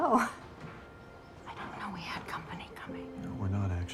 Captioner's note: whispering